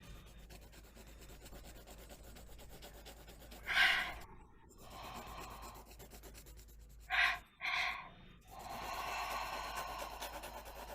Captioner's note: rhythms, breathing, sighing, whispering